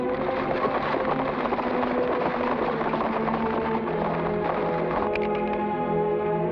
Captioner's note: horse hooves patter; suspenseful music